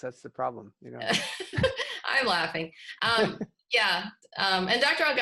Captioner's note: laughter